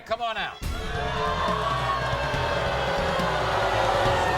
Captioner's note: audience booing